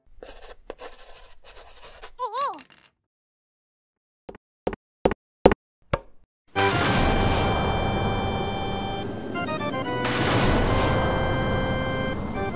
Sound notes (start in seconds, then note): 6.6 crashing thunder